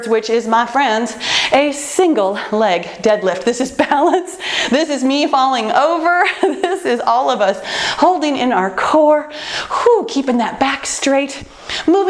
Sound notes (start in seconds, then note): 4.6 laughs